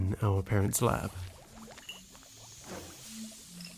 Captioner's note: glasses clinking and burners hissing